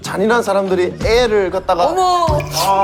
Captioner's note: pitying